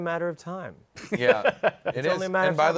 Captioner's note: laughs